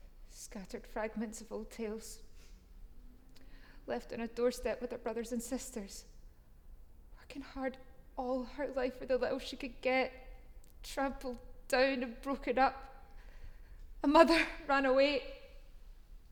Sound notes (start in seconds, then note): none